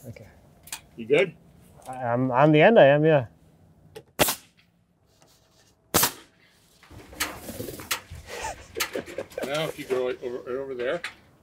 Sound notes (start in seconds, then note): 8.2 laughing